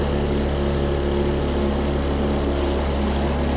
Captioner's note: boat Engine